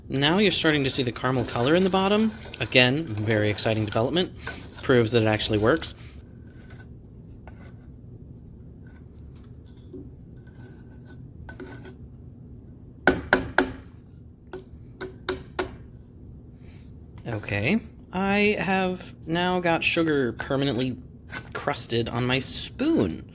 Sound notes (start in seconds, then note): 8.1 banging on pot